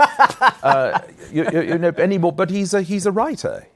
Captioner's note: laughs